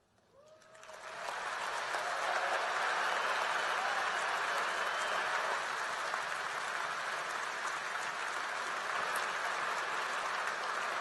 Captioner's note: applause